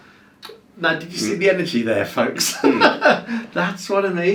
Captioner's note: laughing